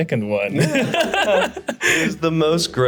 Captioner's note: laughs